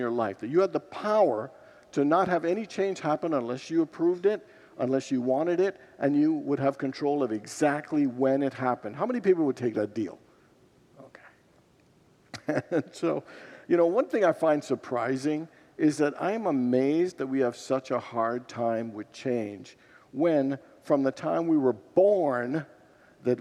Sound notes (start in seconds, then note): 12.3 laughs